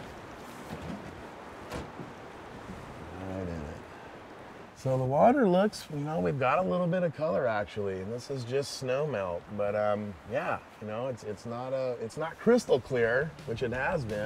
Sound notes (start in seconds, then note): 3.4 creaking